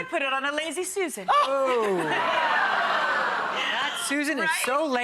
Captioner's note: audience oh's